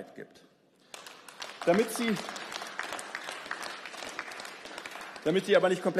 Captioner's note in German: Beifall